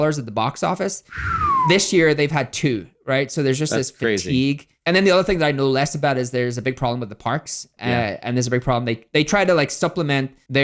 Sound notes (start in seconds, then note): 1.1 whistling